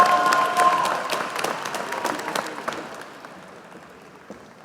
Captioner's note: applause